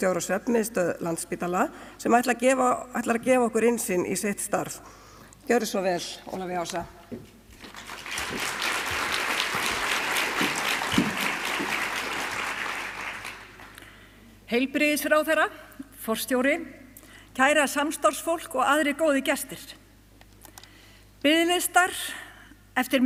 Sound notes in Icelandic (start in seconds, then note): 13.0 fagnaðarlæti